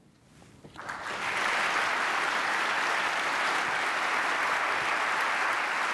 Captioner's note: applause